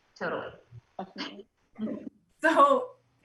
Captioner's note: soft giggles